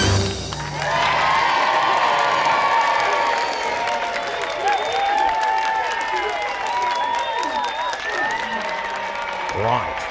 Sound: cheering

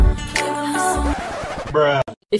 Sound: record scratches

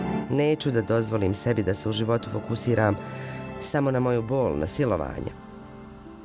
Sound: woman speaking in foreign language

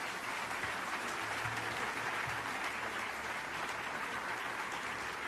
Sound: audience applauding

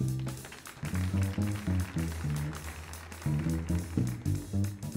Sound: audience applauds

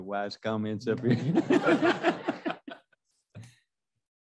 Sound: laughter

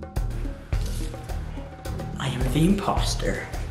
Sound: gentle upbeat music; paper rustling

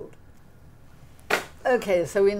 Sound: placard slapping

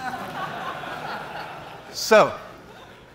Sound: laughs

